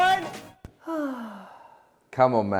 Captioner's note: sighs